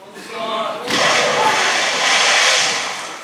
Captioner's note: splash